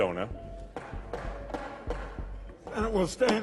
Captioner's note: gavel banging